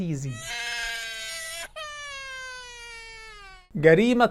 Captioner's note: baby crying